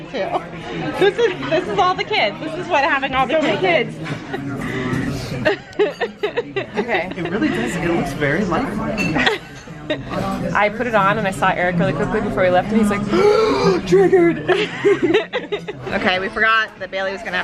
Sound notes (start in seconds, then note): 5.4 laughing; 9.4 laughing; 13.0 gasping; 13.5 laughing